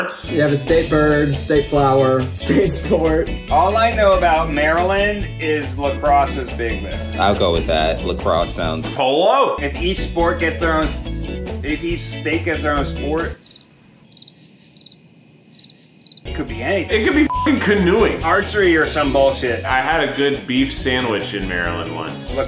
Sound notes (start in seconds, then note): 13.3 crickets chirping; 17.2 beep